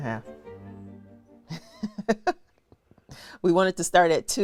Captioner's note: laughs